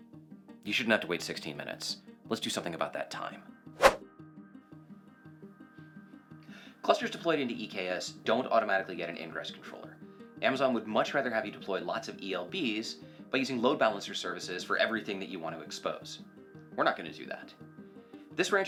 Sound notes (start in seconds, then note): 3.8 whooshing sound